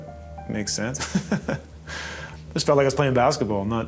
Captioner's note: chuckling